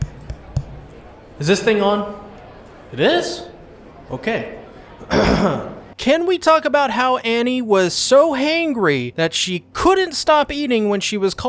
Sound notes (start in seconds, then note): 0.0 tap tap tap; 5.0 clears throat